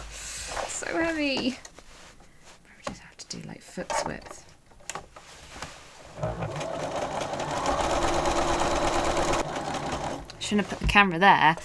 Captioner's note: sewing machine whirring